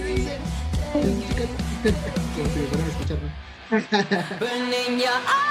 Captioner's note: laughs